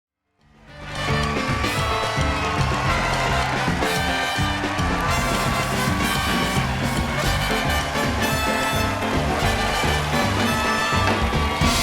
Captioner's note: applause